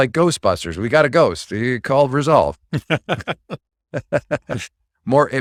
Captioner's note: laughing